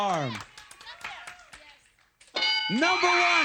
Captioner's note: ding